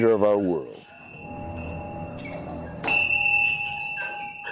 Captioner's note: bell ringing